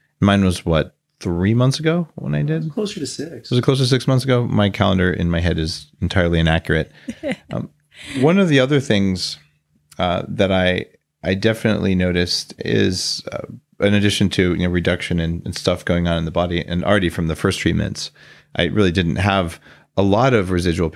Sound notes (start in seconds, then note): 7.0 laughs